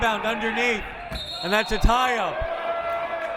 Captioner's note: whistle